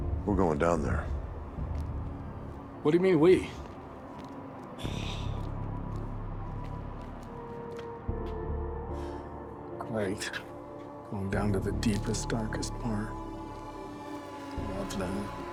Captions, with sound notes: - We're going down there. - What do you mean we? (sighs) (eerie music) Great. Going down to the deepest, darkest part. Love that.